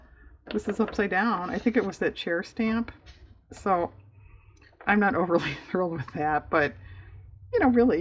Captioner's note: laughs